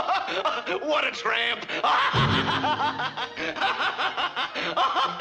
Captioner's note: laughs